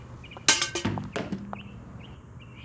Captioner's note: objects clunks